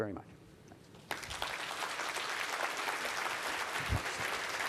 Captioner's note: applause